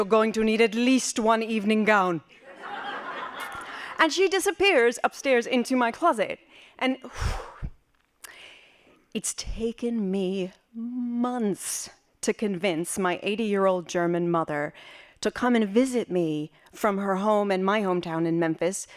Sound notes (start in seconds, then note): 3.3 laughing; 8.2 deep breath